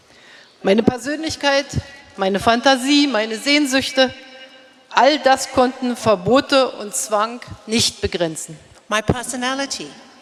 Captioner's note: speaking in German